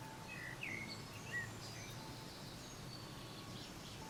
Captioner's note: birds chirping, music